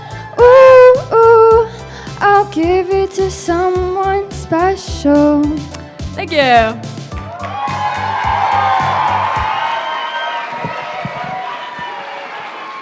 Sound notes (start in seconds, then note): 7.1 applause